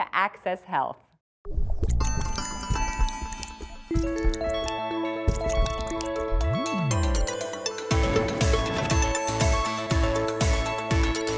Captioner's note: whisper